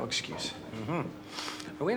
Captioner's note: chuckles